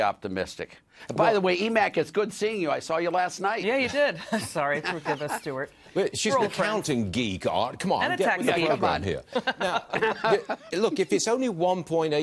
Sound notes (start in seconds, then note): 9.2 laughter